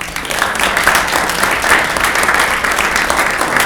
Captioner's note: clapping